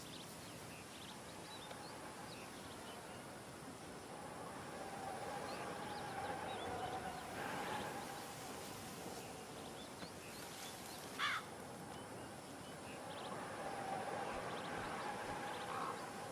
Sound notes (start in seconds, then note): 2.6 hooves walking; 9.9 birds chirping